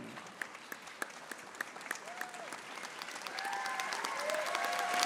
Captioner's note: audience applauding